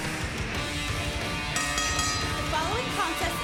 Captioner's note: bell ringing